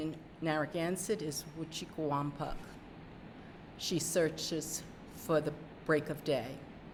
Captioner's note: speaking narragansett